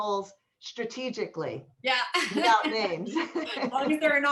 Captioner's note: laughter